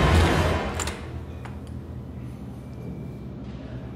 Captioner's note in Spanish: Sonido al abrir la puerta